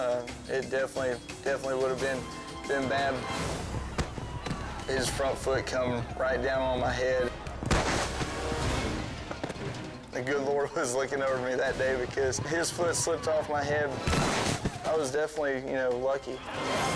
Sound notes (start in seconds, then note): 3.7 thuds; 7.4 foot stomps; 13.9 foot stomps